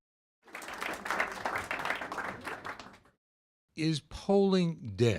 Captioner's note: audience applauding